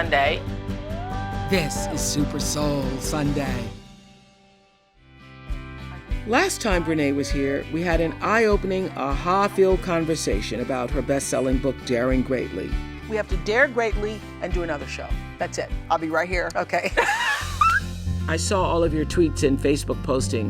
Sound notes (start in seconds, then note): 16.9 laughs